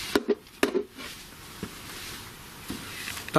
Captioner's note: tapping